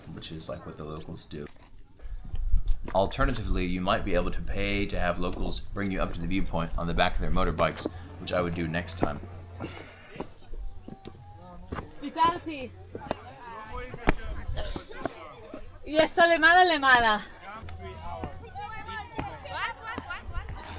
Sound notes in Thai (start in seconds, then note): 9.8 เสียงฝีเท้า; 13.9 พูดภาษาต่างประเทศ